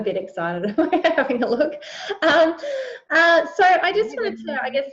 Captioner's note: laughs